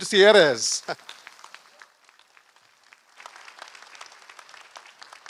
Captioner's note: applause